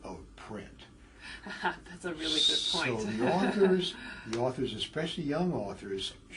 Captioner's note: laugh